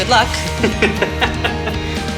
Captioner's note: laughs